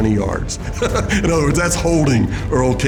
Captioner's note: laughing